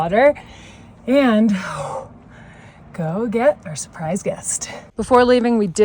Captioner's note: exhales